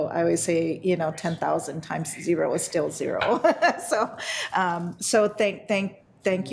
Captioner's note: laughs